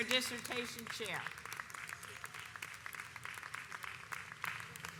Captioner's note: audience applauds